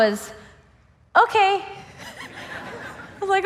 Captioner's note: laughs